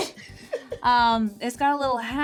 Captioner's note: Richard laughs